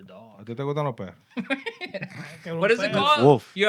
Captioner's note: non-english Speech